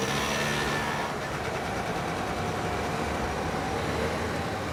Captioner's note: motors running